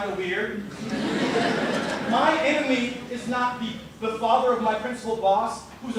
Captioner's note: laughter